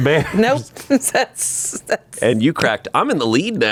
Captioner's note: chuckles; laughs